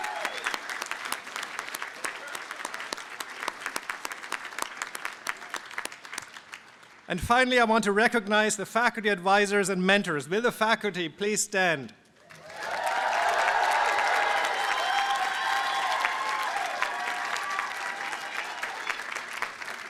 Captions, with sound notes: And finally, I want to recognize the faculty advisers and mentors. Will the faculty please stand. [APPLAUSE AND CHEERING]